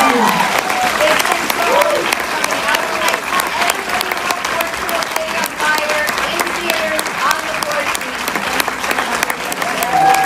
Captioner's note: warm applause